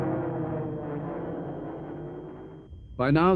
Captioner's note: plane engines roaring